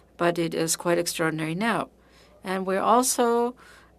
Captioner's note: speaking French